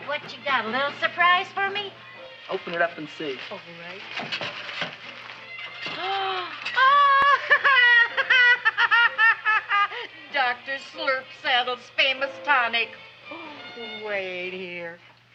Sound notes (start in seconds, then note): 6.3 gasps; 6.4 laughs